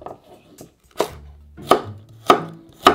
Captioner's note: knife chopping